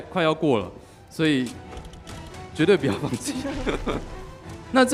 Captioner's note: laughing